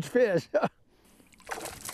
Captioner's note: splash